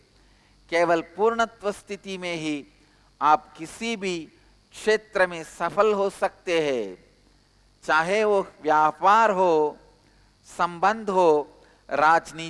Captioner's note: hindi